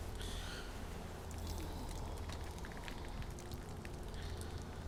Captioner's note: urine splashing